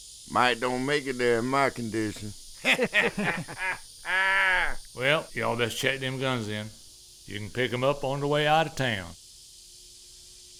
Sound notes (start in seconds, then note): 2.6 all laughing